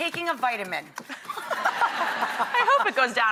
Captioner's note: laughs